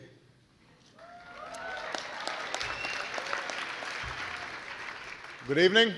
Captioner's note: applause